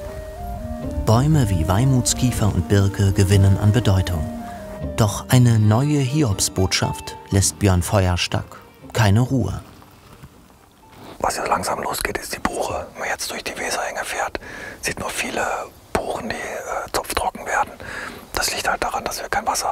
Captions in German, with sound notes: Bäume wie Weymouths-Kiefer und Birke gewinnen an Bedeutung. Doch eine neue Hiobsbotschaft lässt Björn Feuerstack keine Ruhe. (flüstert) Was ja langsam losgeht, ist die Buche! Wenn man jetzt durch die Weserhänge fährt, sieht man viele Buchen, die zupf-trocken werden.